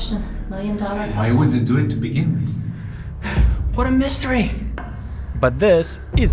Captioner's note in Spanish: suspira